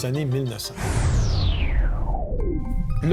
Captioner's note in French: Bruit de vent